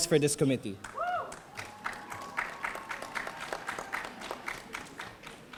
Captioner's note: audience applauding